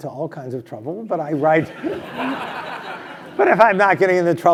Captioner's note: laugh